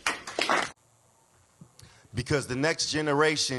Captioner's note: classroom applauds